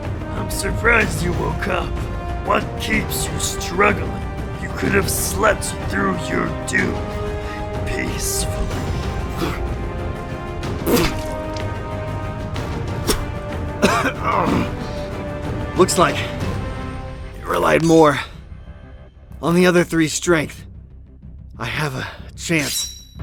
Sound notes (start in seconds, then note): 9.6 spits and coughs